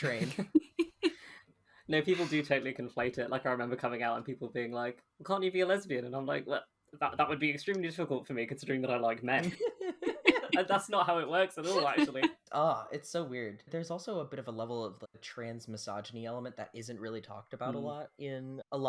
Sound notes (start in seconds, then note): 0.3 laughs; 9.4 laughs